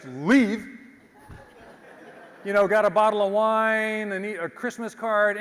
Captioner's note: laugh